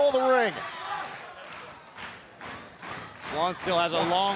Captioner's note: crowd cheering